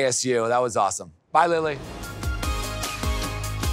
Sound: transition whooshes

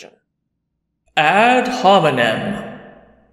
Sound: voiceover

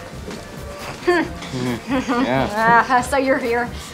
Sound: both chuckle

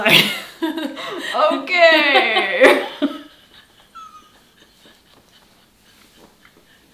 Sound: laughs; laughs

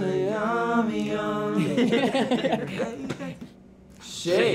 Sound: laughing

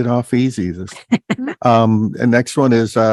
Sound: laughs

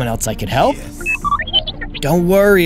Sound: R2-D2 excited noises

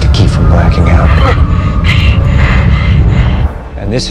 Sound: grunting, gasping

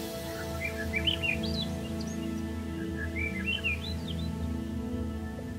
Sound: birds singing

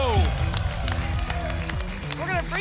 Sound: applause and cheering

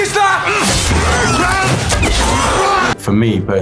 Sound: squealing

